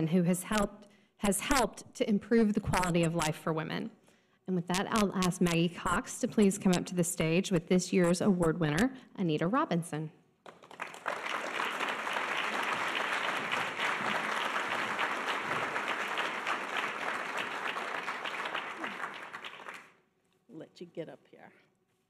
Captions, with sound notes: has helped to improve the quality of life for women. And with that, I'll ask Maggie Cox to please come up to the stage with this year's award winner, Anita Robinson. (audience applause) - Let you get up here.